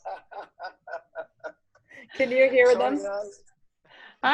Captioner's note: laughter